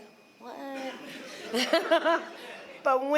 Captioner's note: laughter